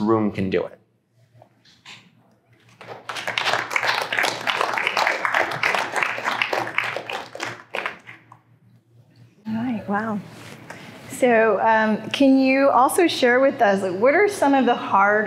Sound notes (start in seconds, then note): 2.6 applause